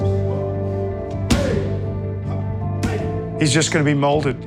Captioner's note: grunting